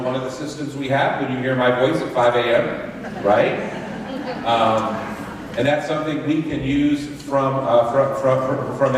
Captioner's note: laughter